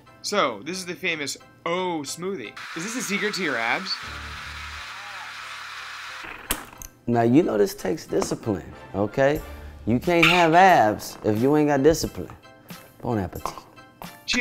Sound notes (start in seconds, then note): 2.6 blender whooshing